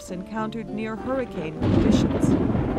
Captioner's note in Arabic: صدمة رعدية